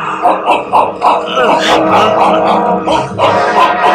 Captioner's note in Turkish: Köpek havlamaları